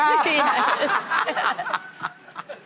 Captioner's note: laughing